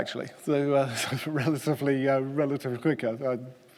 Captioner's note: laughing